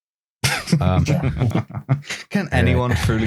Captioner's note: laughter